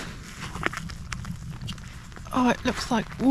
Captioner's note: splosh splosh